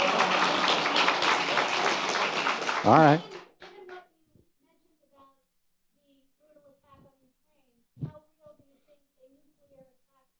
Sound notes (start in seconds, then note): 0.0 audience applauding; 4.4 woman speaking in background